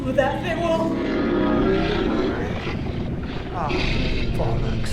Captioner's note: creature roaring